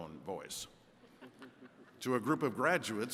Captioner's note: attendees chuckles